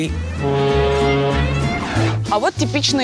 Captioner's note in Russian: гудок теплохода